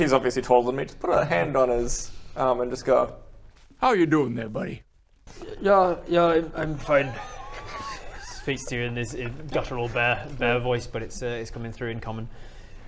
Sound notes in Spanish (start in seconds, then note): 5.8 vacilante